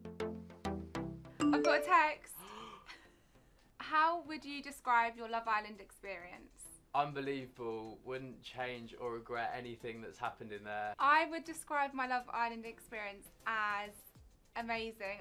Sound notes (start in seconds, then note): 1.4 message beep; 2.4 gasps